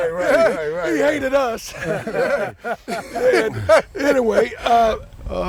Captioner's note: laughter